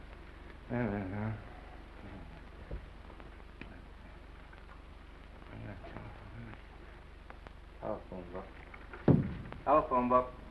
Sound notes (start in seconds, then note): 0.6 mumbles